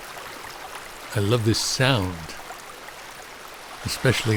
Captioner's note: water babbling